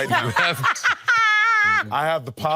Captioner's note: laughing